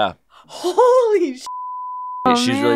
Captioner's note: beep